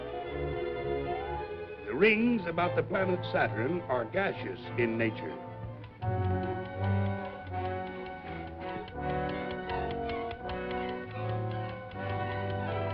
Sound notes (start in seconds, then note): 5.7 timer clicking; 9.4 dramatic music